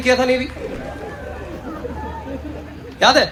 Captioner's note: audience Laughing